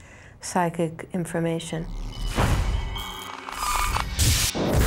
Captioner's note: electrical noises